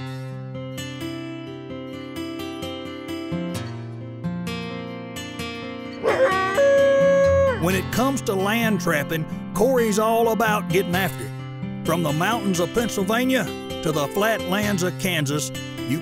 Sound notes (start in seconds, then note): 0.1 soft music; 6.0 coyote howling